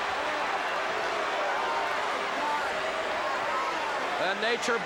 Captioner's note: crowd booing